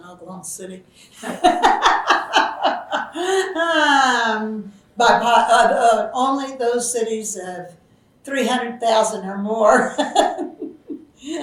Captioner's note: laughs